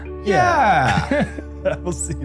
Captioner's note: laughter